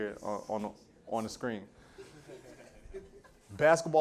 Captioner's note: laughter